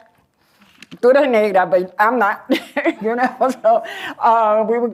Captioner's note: non-english